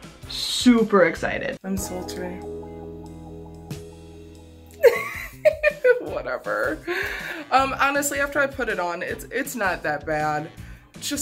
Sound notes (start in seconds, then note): 3.2 sultry music; 4.7 laughs